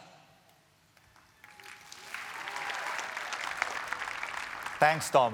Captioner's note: applause